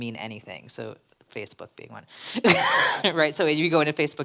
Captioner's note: laughs